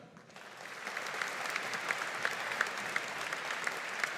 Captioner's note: audience applauding